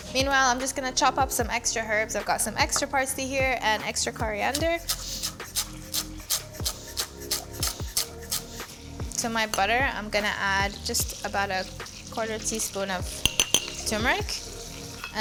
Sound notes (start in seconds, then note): 5.1 soft music; 5.1 veggies slicing